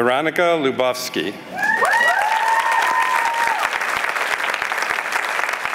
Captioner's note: applause